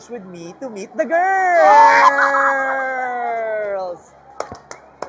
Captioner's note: screams